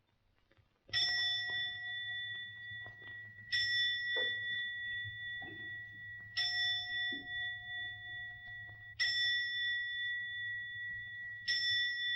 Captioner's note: clock bell tolls